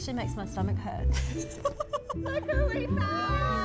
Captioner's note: both laugh